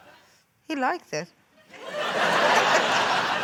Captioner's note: laughter